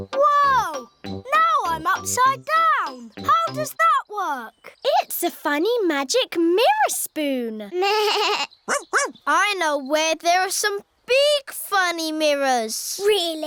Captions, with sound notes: Whoa! Now I'm upside-down! How does that work? It's a funny, magic mirror spoon. (BLEATS) Woof-woof! I know where there are some big, funny mirrors.